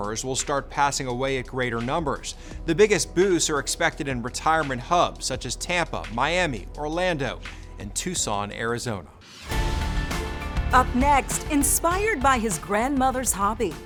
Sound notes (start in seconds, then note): 9.2 logo whooshes; 9.2 serious music